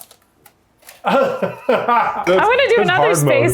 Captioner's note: laughing